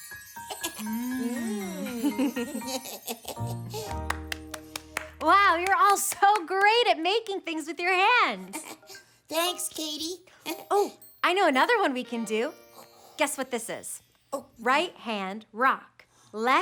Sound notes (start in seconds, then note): 0.6 Tobee chuckles; 3.9 clapping